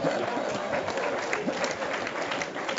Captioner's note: laugh; applause